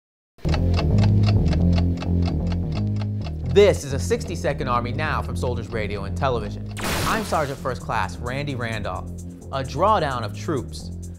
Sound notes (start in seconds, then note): 0.4 clock ticking; 0.5 bass guitar playing